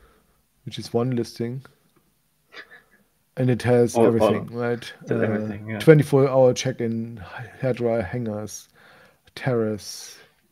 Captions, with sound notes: which is one listing and it has everything, right? - (faintly speaks) Has everything, yeah. - 24 hour checking, head dryer, hangers, terrace,